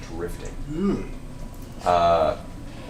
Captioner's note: apprehensive sound